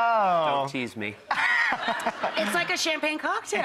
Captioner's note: laughing